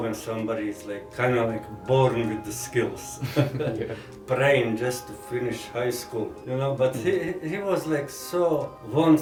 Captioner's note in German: Lacht